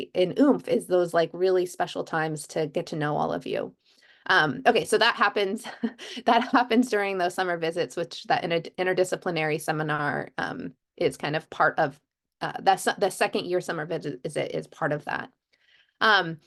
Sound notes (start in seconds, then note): 5.6 laughter